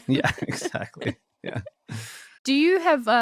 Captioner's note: both laughing